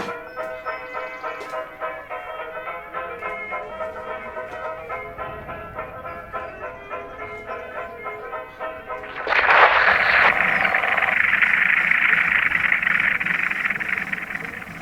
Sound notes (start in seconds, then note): 9.0 radio scratching